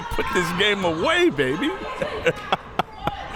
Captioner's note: laughs